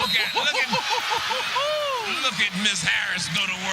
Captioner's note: laughter